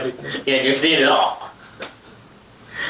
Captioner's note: laughs; laughing